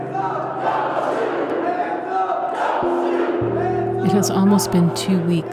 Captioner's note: crowd speaking